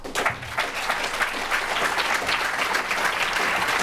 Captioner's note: applause